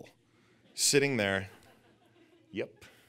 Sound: audience laughing

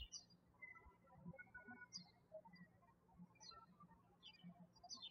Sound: birds chirping

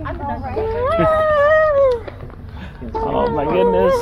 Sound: squealing

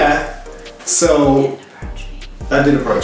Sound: wispers

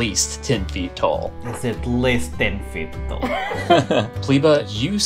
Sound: laughter

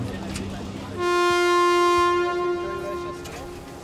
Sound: foghorn blares

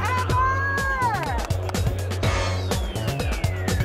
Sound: clapping

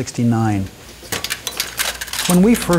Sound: plastic clinks

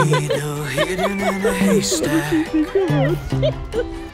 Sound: laughing

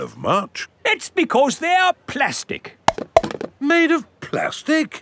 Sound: clunks

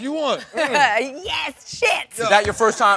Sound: laughs

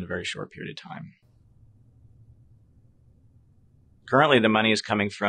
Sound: silence

